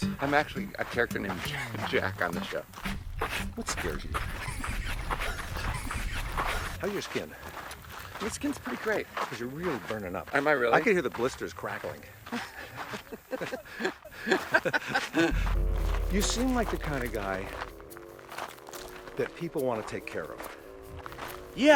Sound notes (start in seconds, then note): 3.7 laughs; 12.2 both laughing